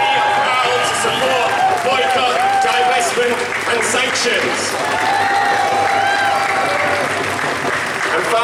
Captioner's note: cheers